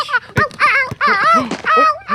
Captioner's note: laugh